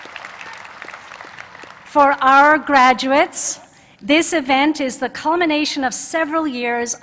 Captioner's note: applause